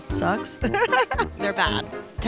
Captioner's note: laughter